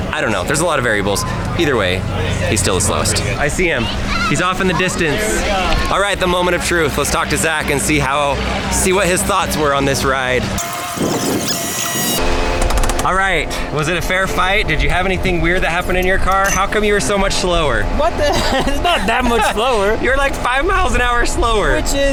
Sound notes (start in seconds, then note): 10.5 sound fast forwarded; 17.9 laughs